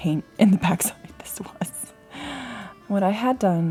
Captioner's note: laughs